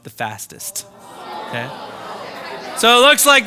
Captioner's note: participants groaning